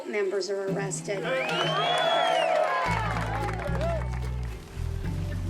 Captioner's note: cheers and applause